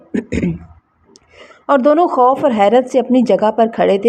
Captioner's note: clears throat